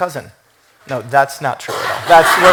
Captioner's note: laughter